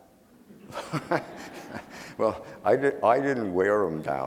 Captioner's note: laughing